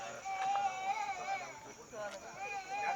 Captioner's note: baby sobbing faintly